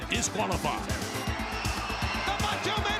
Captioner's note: crowd cheering